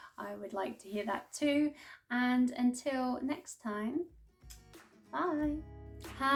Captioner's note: kiss